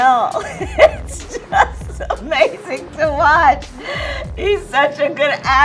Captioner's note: laughs